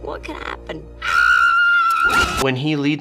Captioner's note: Violet screaming